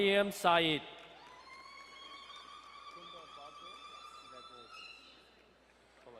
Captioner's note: long drawn out woman cheering